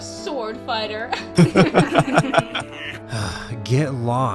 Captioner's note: bullies laugh